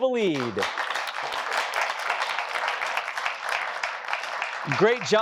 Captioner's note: applause